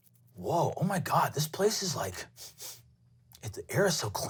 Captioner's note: sniffs